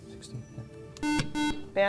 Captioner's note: beeping